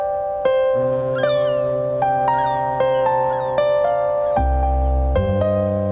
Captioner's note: mellow music; birds chirping; ship horn honking; mellow music